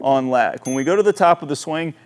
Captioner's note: bell dinging